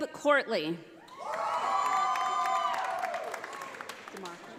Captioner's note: audience applauding